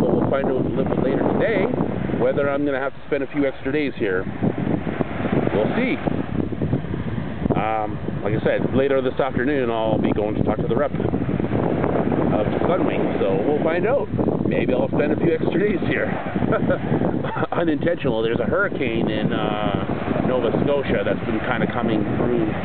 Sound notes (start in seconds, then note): 17.2 laughing